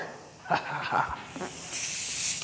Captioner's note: laughs